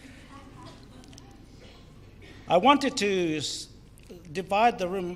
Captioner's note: crowd laughs